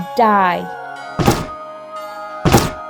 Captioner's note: chop!